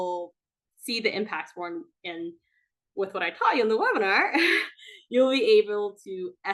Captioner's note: chuckles